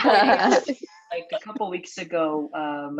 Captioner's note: laughter